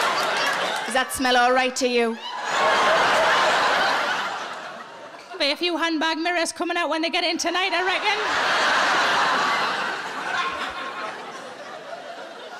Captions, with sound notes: Does that smell all right to you? (audience laughing) There'll be a few handbag mirrors coming out when they get in tonight, I reckon. (audience laughing)